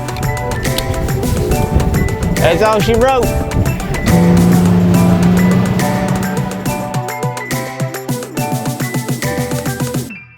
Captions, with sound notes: That's all she wrote. (motor engine revs) (techno music)